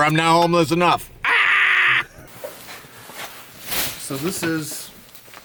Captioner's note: yells